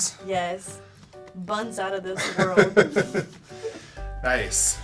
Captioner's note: laughs